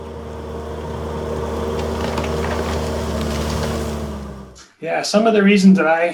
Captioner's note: bulldozer engine revving